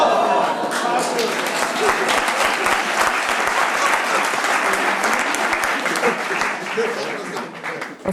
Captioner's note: applause